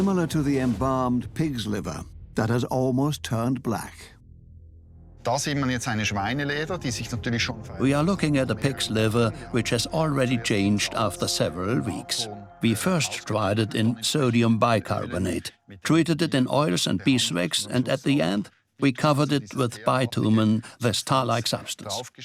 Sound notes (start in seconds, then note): 5.1 speaks German